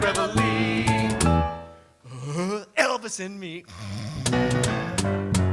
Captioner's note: Jimmy starts snoring